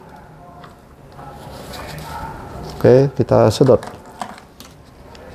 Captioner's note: tissues noise; damper noise